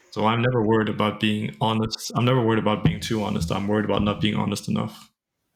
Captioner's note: none